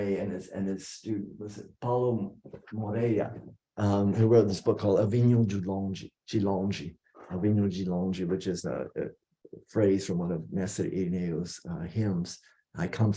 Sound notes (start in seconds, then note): 6.3 non-english speech